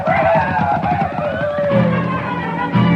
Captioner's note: cheering; upbeat music